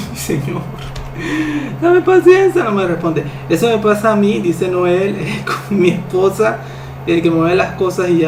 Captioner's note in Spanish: risas